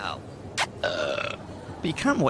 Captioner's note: kiss; burp